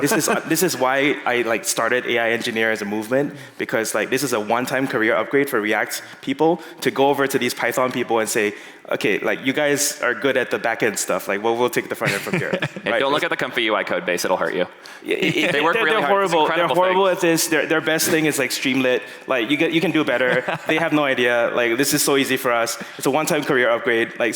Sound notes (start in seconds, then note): 15.1 laughing